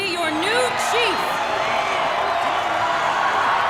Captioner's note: cheering